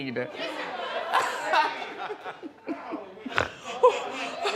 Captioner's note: Wendy laughing